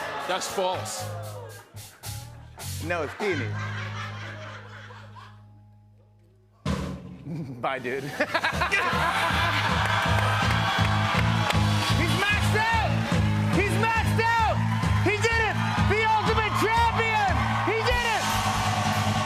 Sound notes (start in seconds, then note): 2.9 laughter; 6.6 drumroll; 7.7 laughter; 19.0 cheers and applause